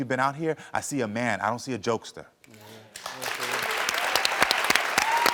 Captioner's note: audience applauds